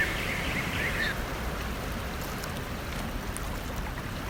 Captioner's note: water trickling